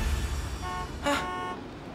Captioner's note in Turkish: Korno sesi